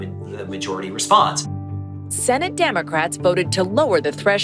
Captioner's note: soundbite of archived recording